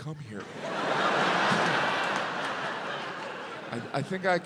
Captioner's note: audience laughs